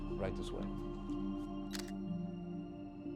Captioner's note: camera shutter